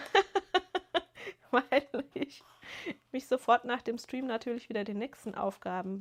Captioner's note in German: gelächter